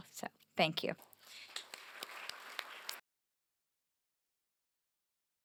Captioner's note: applause